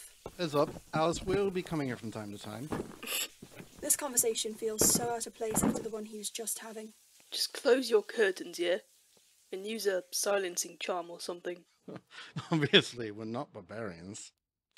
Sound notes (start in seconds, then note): 2.7 James snorts; 12.1 Frank laughs